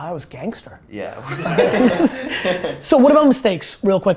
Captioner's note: laughter